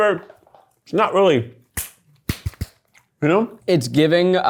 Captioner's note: hands slapping